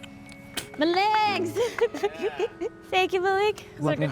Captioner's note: laughs